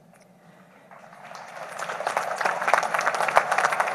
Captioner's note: applause